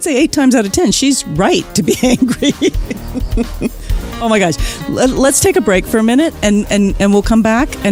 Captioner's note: laughs